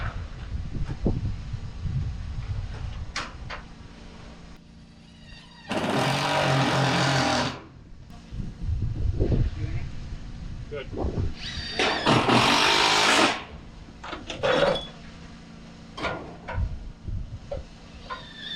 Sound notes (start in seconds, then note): 5.7 drill runs; 13.5 drill runs